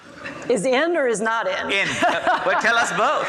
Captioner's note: laughs